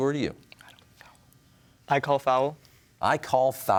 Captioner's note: whispers